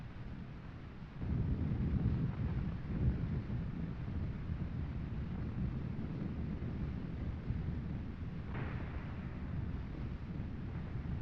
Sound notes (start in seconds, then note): none